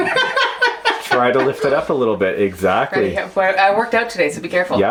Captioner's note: laughs; voiceover